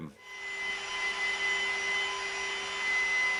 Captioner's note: machine sounds